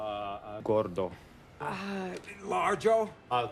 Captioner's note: speaking foreign language